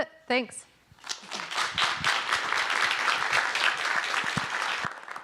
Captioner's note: audience applauding